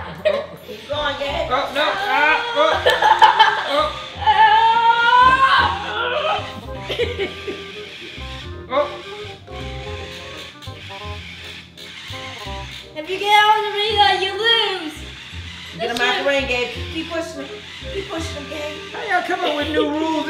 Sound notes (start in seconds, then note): 0.4 laughs; 2.8 shouts; 8.4 robots whirring